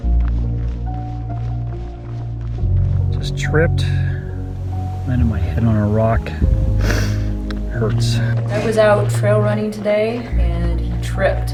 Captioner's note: heavy breathing, running feet